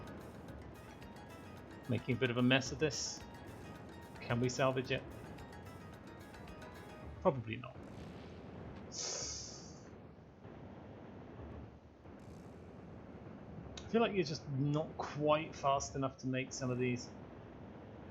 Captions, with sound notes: Making a bit of a mess of this. Can we salvage it? Probably not. *sharp intake of breath* I feel like you're just not quite fast enough to make some of these.